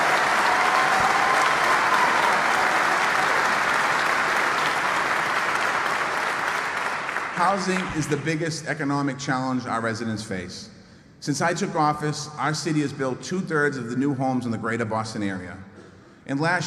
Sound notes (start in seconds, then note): 0.0 applause